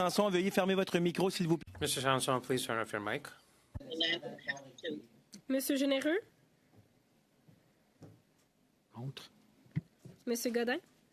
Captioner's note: speaking French